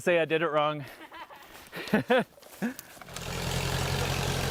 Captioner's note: laughter